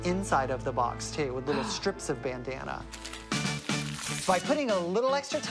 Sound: gasps

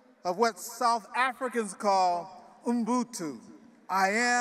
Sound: speaking in foreign language

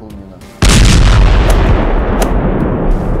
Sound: explosion

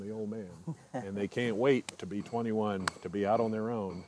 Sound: laughing

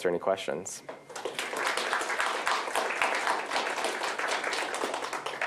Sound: applause

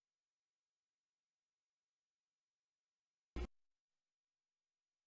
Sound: silence

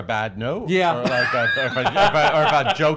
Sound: laughs

